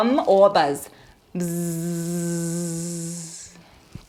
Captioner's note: buzzing